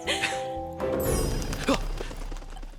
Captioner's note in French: rires; battements d'ailes